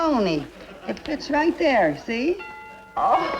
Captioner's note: doorbell rings